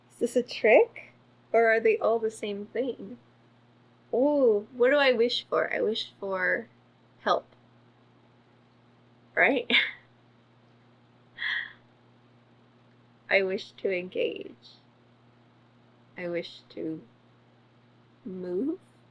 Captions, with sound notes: IS THIS A TRICK OR ARE THEY ALL THE SAME THING OH WHAT DO I WISH FOR I WISH FOR HELP RIGHT [LAUGHS] I WISH TO ENGAGE I WISH TO MOVE